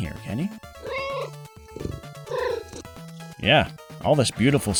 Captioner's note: meow